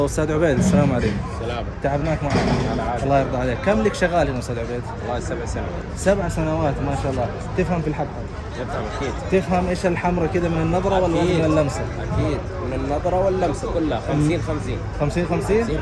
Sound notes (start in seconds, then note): 1.8 talking in Arabic